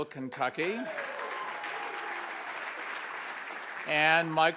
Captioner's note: audience applauds and cheers